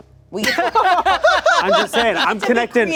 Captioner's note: everyone laughing